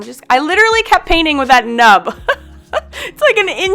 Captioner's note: laughs